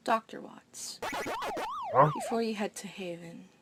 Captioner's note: video game sounds